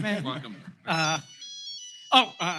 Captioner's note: phone ringing